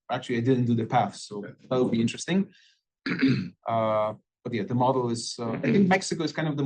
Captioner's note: cough